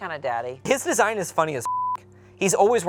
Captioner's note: beep